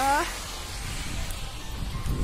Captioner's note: wind blows